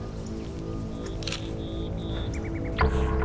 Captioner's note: camera clicking